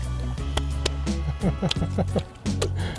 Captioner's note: laughing; hands clapping